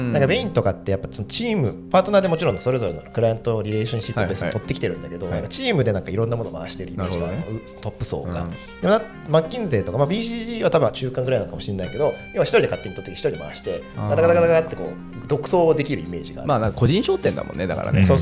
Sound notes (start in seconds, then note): 7.0 laughs